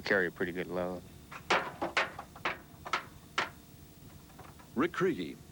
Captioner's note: pounding metal